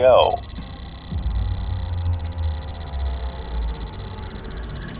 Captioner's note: interface chiming